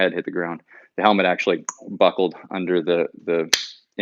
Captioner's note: clicks